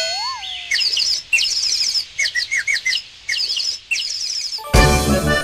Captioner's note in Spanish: Sonido de pájaros; Música alegre